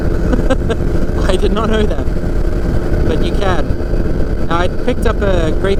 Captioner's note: chuckles